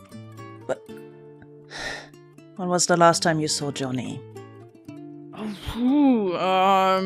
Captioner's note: short sigh